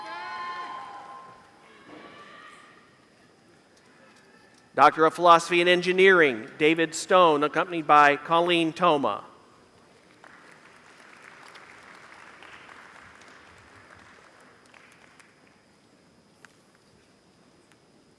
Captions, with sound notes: Doctor of Philosophy in engineering. (Applause)